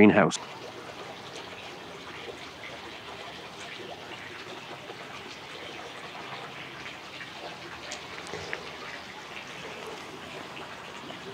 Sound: water sounds

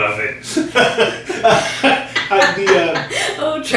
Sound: everyone laughing

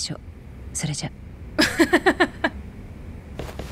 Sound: chuckles

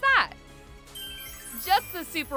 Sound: twinkling sparkle effect

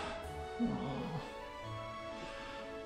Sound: groans

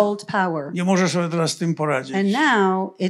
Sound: foreign language

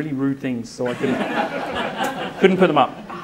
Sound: audience laughs

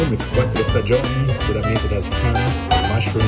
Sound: speaking foreign language

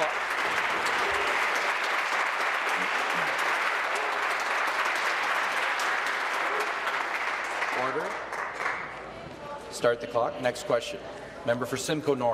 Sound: applause

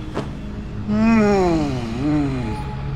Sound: moans happily

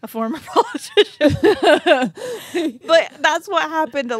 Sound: chuckling

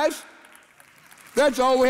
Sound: congregation applauding

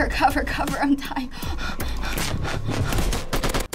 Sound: panting

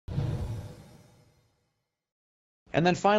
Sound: whoosh

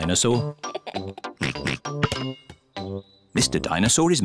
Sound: laughs and oinks

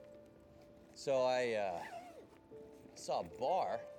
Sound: zipper zipping

